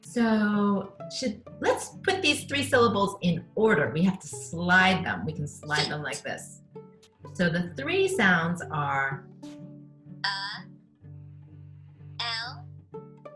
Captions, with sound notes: So, let's put these three syllables in order. We have to slide them, we can slide them like this. So the three sounds are-- - [Computer Voice] E el phant.